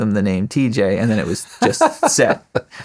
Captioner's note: laughing